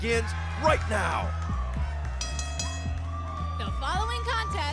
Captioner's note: bell ringing